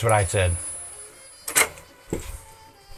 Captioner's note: clicking